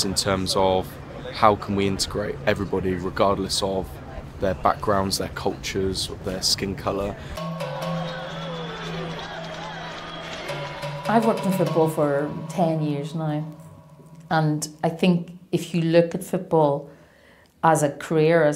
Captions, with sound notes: in terms of how can we integrate everybody, regardless of their backgrounds, their cultures, or their skin color? (percussive tones) (crowd cheering) - I've worked in football for 10 years now and I think if you look at football as a career,